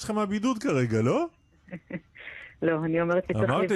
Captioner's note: chuckling